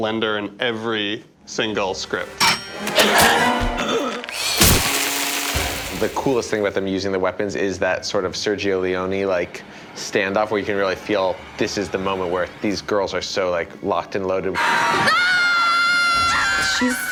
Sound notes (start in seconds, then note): 2.4 alarm blaring; 2.4 blender roaring; 14.5 shouting